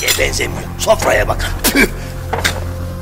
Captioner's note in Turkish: Tükürür